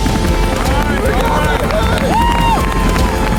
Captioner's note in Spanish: Aplausos